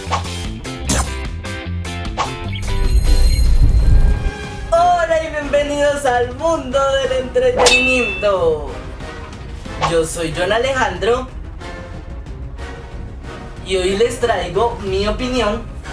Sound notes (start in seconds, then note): 0.8 thwip; 0.9 hoosh